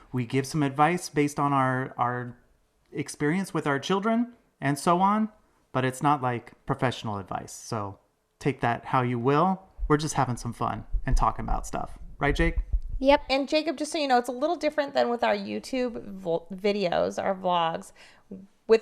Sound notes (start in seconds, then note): none